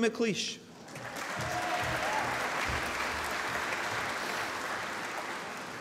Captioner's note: applause